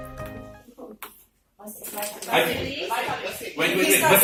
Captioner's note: noise, people talking loudly